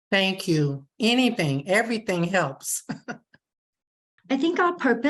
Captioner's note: chuckles